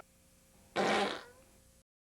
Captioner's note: fart noise